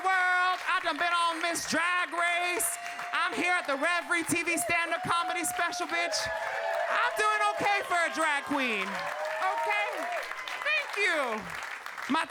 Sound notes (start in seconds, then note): 6.0 audience cheering; 10.7 audience cheering